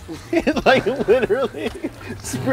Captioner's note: laughing